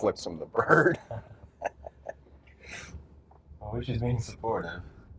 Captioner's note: both chuckle